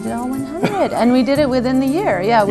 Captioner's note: laughs